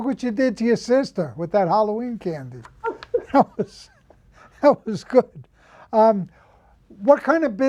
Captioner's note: laughs